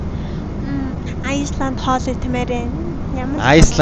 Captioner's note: Cute Voice: Iceland food